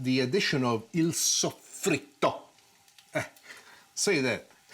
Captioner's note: laughs